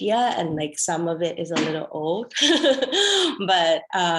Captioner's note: laughs